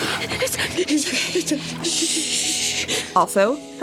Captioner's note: Dani gasping and stuttering the phrase "It's us" over and over again; Dani hyperventilating